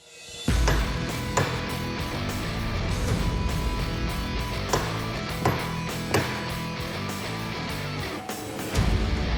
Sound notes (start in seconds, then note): 4.6 chopping